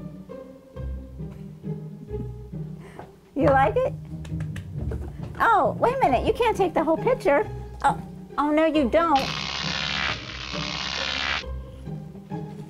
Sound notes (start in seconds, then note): 9.1 zapping electric sound